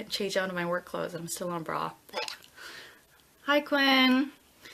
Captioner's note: groans